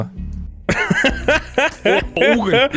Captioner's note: laughter